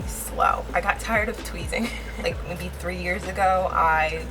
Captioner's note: laughs